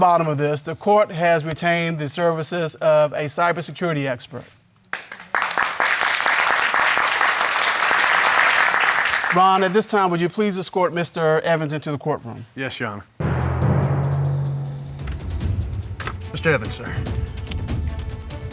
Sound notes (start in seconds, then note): 4.9 applause